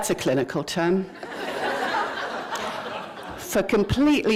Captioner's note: laughter